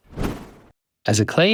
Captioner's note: air whooshes